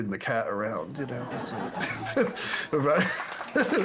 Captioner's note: laughing